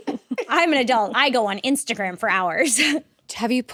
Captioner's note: laughs; laughs